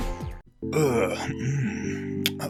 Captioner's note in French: bruit sensuels